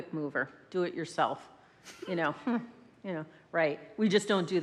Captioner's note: laughs